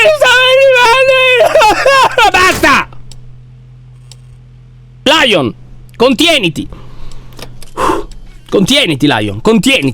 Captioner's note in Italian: tono serio